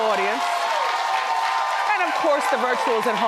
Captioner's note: audience cheers